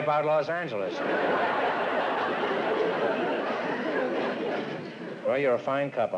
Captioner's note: laughter